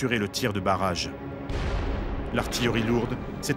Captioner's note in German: Kanonenschuss